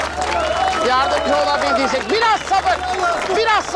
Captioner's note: crowd noise